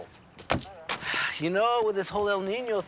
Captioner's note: sighs